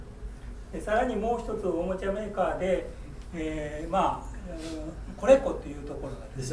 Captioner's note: speaking in foreign language